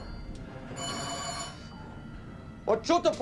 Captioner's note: alarm